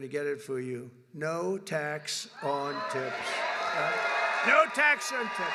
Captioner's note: applause